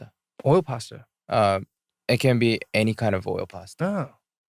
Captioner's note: none